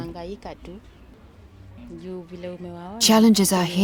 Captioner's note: speaking in non-English